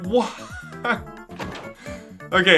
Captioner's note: laughs